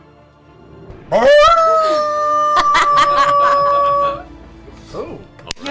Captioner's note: howls